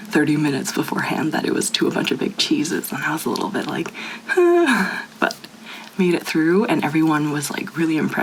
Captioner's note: nervous noise